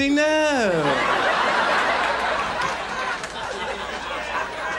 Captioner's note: audience laughs